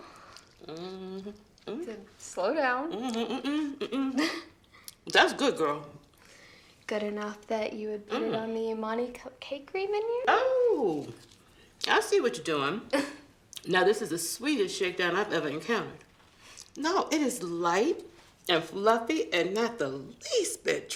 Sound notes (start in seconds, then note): 13.0 Tracy laughs